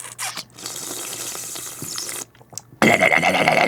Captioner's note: bubbling it behind his teeth